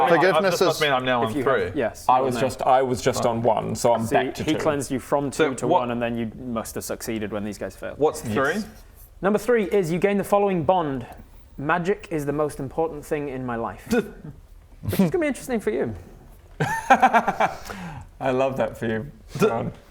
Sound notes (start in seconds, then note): 14.7 scoff; 16.8 mocking